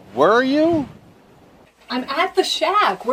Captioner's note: none